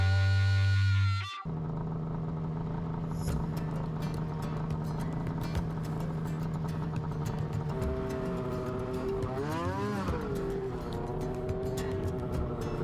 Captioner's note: snowmobile engine running